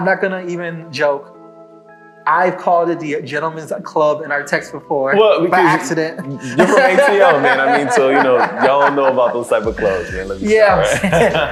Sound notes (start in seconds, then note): 5.2 laughs; 8.1 laughing; 10.7 laughing